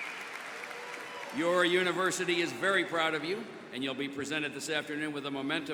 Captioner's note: cheers and applause